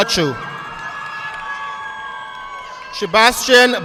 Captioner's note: audience clapping